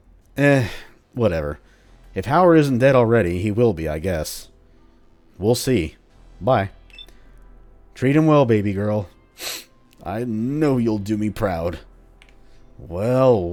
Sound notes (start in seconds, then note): 9.4 sob